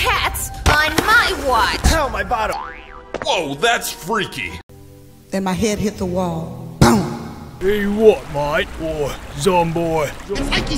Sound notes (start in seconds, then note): 6.8 boom